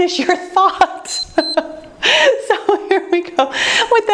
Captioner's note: timer beeps